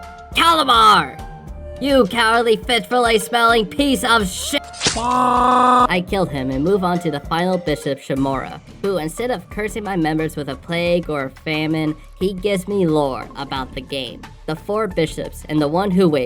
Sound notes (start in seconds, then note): 4.8 screaming in pain